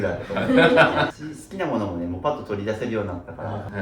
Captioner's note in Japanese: 笑い